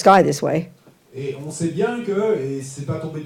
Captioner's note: French